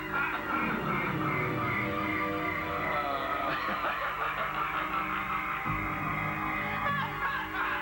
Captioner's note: laughter